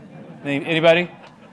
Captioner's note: laughing